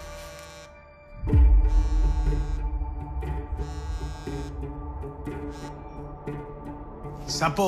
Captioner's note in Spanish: Suena el celular